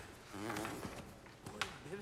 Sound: farting sound

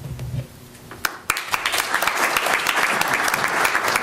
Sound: applause

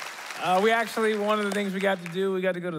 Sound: applause

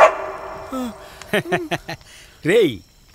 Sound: laughs

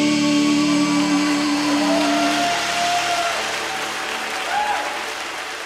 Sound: congregation cheers and applauds

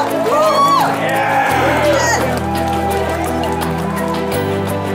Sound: crowd Cheers

